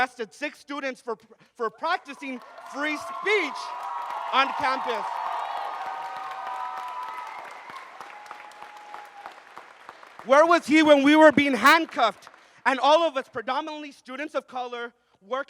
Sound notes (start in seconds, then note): 5.2 audience cheers and applauds